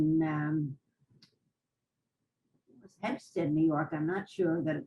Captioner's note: pauses for 3 seconds